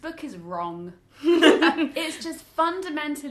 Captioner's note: everyone laughs